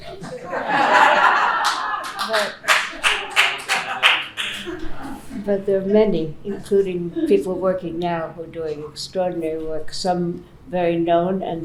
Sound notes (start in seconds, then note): 0.0 laughing; 1.5 applause